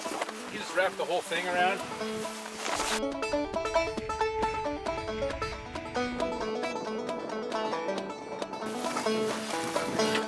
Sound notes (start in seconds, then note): 2.3 wind blowing